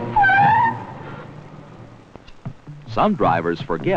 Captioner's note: tires screeching